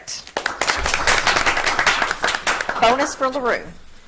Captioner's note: audience clapping